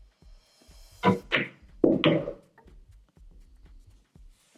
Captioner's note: balls hitting